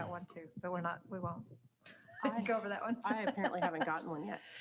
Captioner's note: laughing